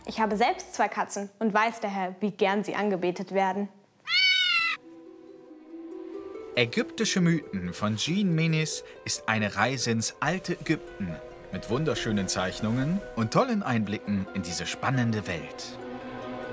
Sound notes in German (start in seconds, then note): none